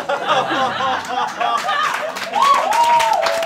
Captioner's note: all laughing; all applauding